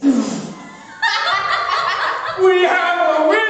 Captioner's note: spit take laughter